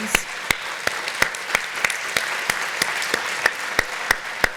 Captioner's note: applauding